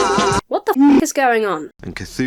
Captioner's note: Wookie howls